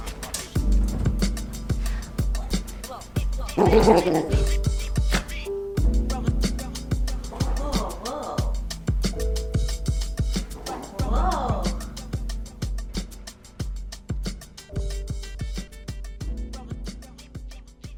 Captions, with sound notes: (growling) Whoa, whoa, whoa. (mellow music)